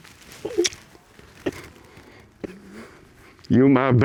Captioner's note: sobbing